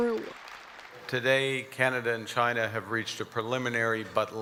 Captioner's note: applause